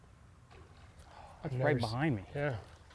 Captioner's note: small splash